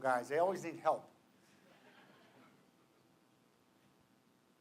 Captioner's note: laughter